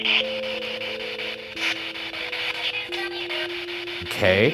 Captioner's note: spirit Box buzzing